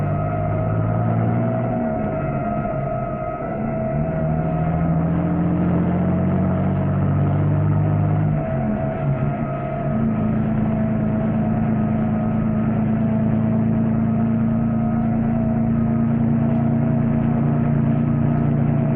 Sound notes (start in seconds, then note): 0.5 distant police sirens alarming